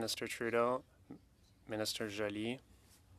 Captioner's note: speaking French